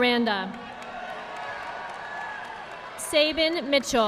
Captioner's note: audience applauding